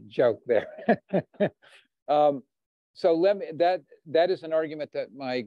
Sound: chuckles

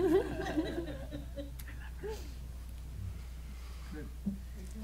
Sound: laughing

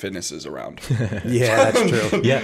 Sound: chuckle

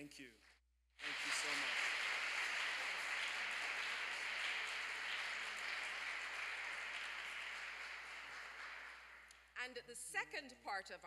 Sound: applause

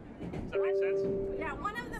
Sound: train beeping

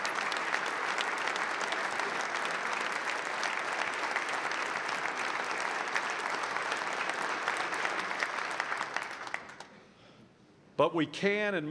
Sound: applause

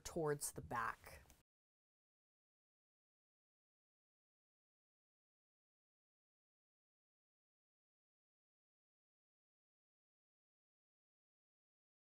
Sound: no Sound Present

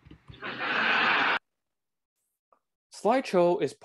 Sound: audience laughing

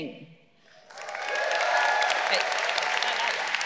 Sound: graduates applauding; graduates cheering

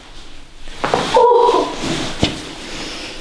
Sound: the girl screams after massage

